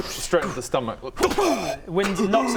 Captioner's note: pow!